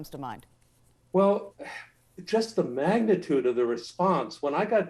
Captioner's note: sighs